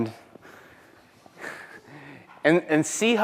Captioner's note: chuckles